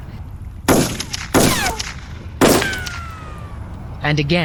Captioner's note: three Gunshots